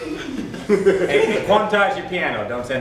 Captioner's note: laughter